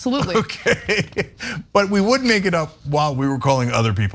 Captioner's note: laugh